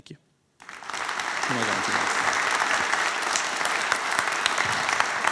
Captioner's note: applause